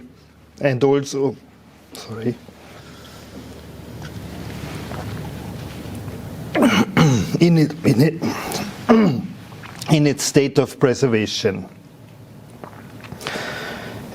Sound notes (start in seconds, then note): 6.5 coughing